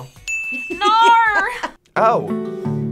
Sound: buzzer rings; bell rings

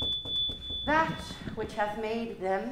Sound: whining

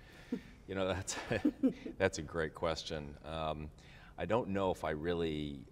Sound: laughs

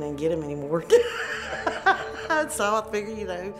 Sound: laughing

